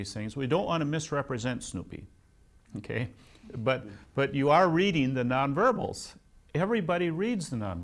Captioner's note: laughs